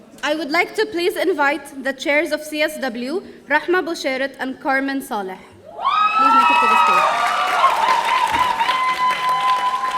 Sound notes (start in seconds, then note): 5.8 audience cheering